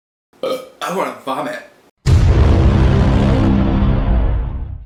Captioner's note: burp; Inception Noise